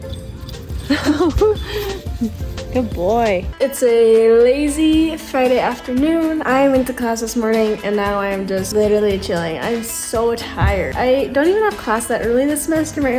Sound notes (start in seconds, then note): 0.1 laughs